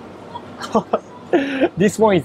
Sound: chuckles

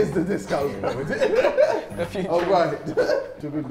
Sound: JJ laughing

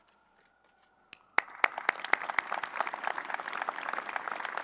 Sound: applause

